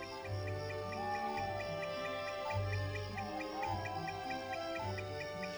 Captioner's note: hooting in background